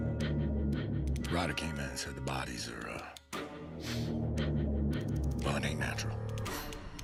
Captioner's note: snorts